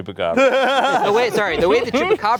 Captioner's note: laughing